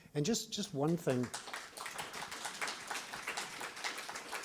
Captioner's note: applause